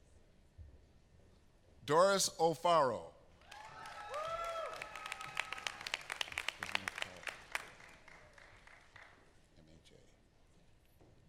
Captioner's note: applause